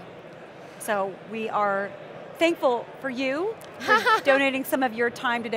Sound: laughs

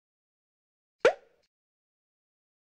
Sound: pop!

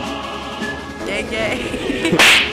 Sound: giggles

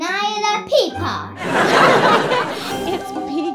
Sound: audience laughing

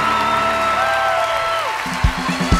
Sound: cheers and applause

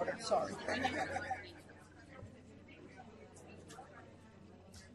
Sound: voices chatting softly

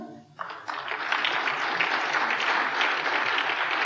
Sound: applause

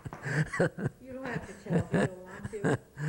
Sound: laughter

